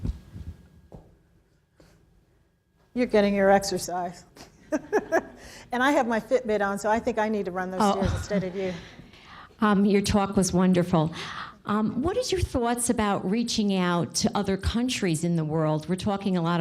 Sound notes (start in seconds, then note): 4.4 laughs; 12.1 chuckles